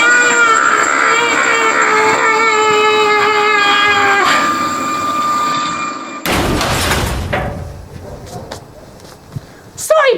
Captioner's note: crash